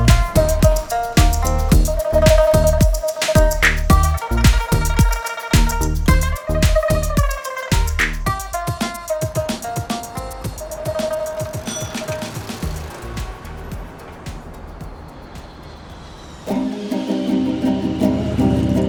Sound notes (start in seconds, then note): 11.5 bicycle bell dings; 16.5 rhythmic guitar music